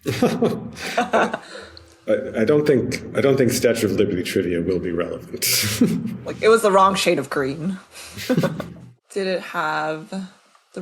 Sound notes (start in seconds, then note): 0.0 laugh; 8.1 both laugh